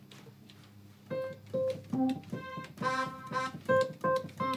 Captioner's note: keys tinkling